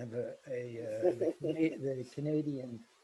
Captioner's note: chuckles